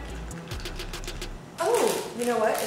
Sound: candies clacking

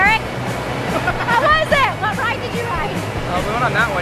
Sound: laughing

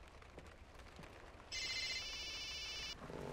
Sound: phone ringing

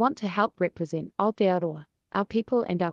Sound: speaks foreign language

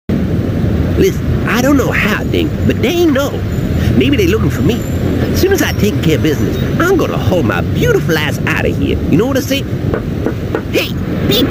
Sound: knock,knock,knock

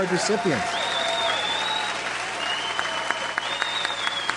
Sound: audience applauds

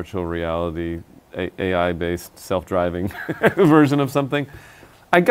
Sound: laughs

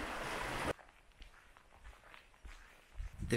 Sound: sounds of waves; sounds of gravel

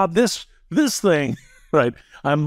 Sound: laugh

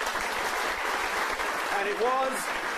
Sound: applause

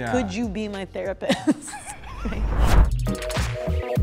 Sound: chuckles; mellow music

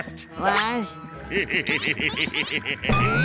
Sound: laughing

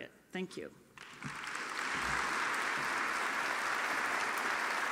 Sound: audience applauding

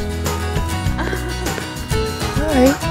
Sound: laughing

